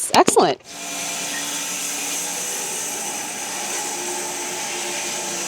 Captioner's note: woodcutting machine whirring